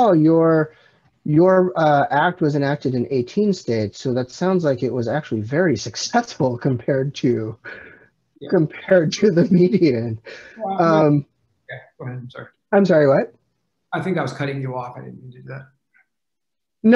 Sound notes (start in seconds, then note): 8.5 laughs